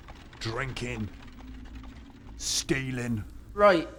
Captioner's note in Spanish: none